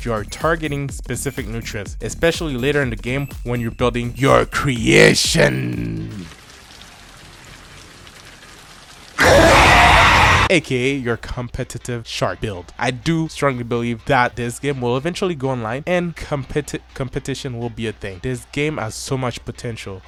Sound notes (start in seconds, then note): 5.3 raining sounds; 7.3 screams from the monster